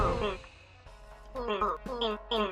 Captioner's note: electronic jittering